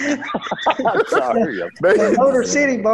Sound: laughter

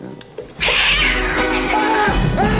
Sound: Binx screeching

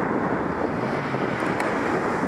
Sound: engine noise revs

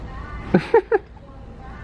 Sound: chuckles

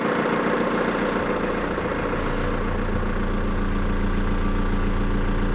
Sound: engine noise

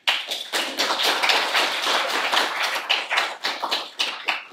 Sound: audience applauding

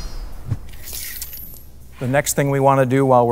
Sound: metallic whooshing sound; sword slicing

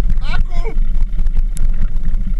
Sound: engine sounds

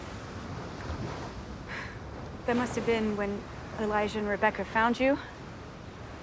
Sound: sighs

